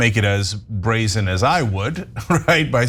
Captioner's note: laugh